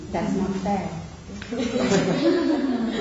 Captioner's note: laughing